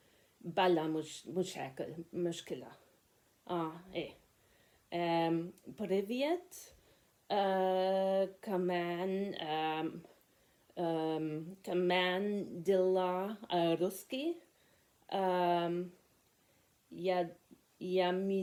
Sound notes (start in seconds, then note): 8.6 said it in Arabic